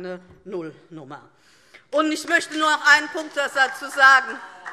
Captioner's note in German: Beifall DIE LINKE - Zurufe CDU: Oh! - Weitere Zurufe